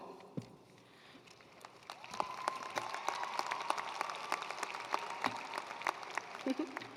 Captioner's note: attendees cheering and applauding